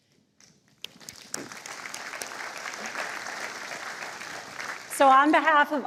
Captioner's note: applause